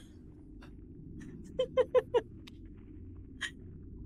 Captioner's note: laughing